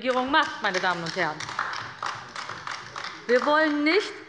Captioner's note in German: Beifall bei der LINKEN